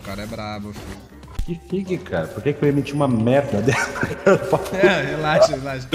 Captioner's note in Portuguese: risos